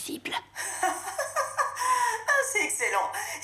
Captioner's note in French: rires